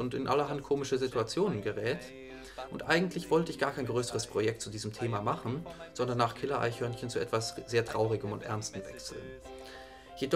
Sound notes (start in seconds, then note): none